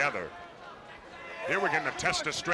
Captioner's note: crowd chatter